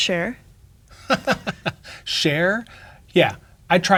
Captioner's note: laughs